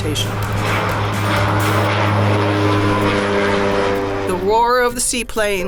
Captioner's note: airplane engine roaring